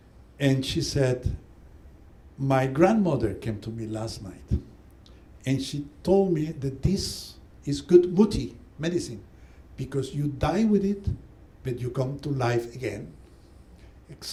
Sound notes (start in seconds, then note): 7.8 non-english